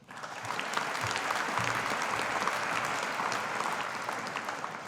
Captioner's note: audience applauding